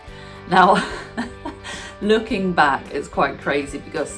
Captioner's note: laughs